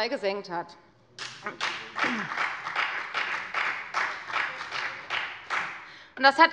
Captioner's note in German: Beifall bei der FDP